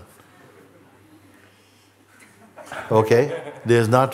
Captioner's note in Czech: smích